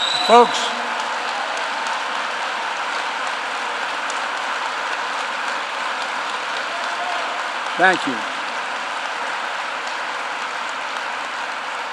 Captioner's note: applause